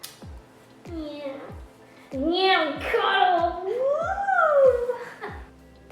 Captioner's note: squeals like young child